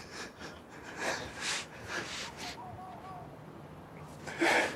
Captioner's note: crying